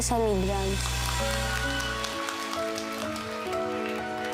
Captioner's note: crowd applauding